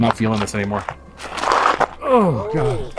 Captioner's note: foot sliding